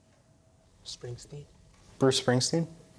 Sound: quietly

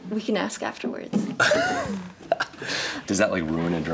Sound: laughs

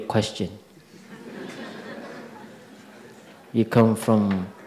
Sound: audience laughing

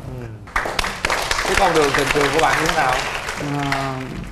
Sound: applause

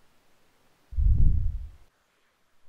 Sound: whoosh

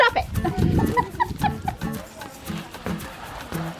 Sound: laughing

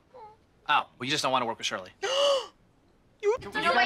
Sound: SHIRLEY gasps; everyone arguing

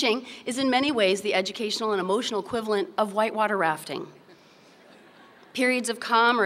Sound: laughter

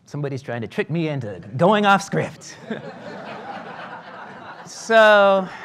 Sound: audience laughing

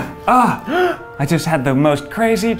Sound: gasps

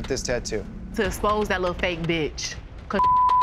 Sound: beep

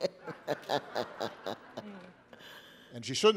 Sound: laughter

